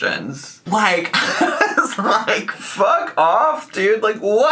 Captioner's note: laughs